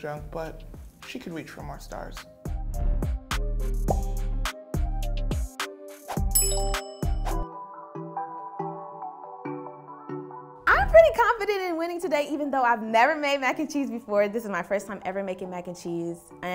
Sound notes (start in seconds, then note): 2.6 smooth music plays; 6.4 text chimes